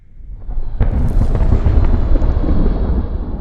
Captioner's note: explosion in distance